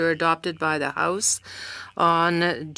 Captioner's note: speaking French